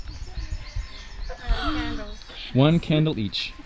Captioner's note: gasping